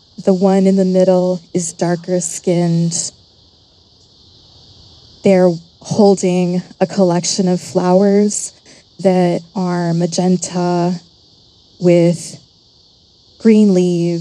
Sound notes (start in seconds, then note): none